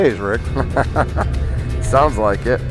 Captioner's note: laughs